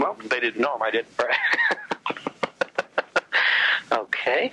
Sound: laughs

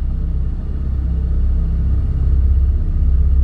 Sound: rumble intensifies

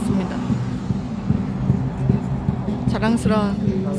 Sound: The Warsaw street is noisy

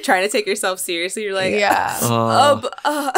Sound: fake sobs

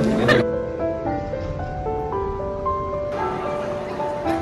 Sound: laughing

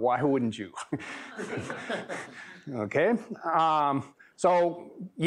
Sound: laughter

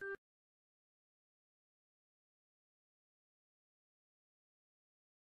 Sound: silence

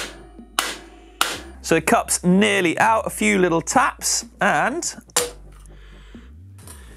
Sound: hammering; bang

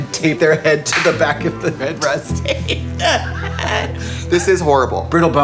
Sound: laughing

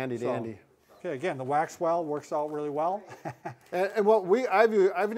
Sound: chuckle

